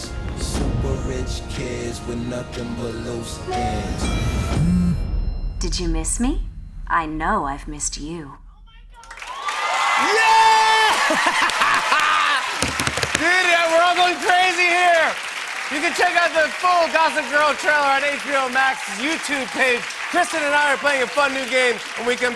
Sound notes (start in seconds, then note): 3.9 cellphones chiming, vibrating; 11.1 cheers and applause